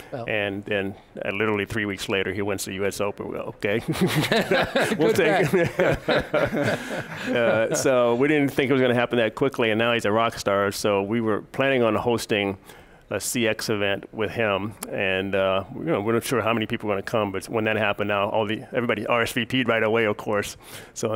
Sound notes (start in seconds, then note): 3.9 all laugh; 7.2 laughs